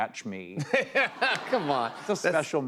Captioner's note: laughter